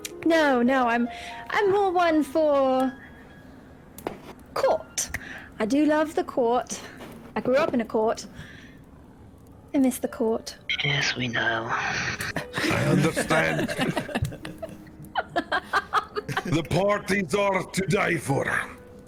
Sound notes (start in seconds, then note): 12.2 all laughter; 15.0 laughter